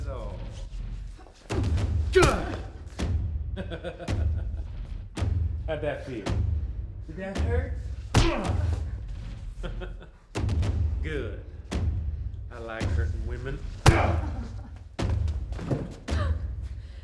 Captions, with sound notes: (Rollins groaning) (Rollins laughing) How'd that feel? Did that hurt? (skin smacking) Good, I like hurting women.